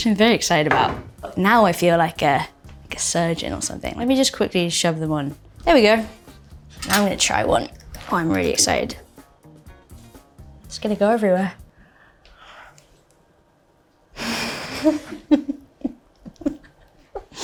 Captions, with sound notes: which I'm very excited about. Now I feel like a surgeon or something. Let me just quickly shove them on. There we go. Now I'm gonna try one, I'm really excited. It's gonna go everywhere. [Bell chuckling]